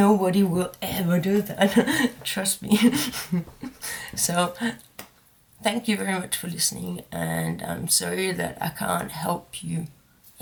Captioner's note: laughs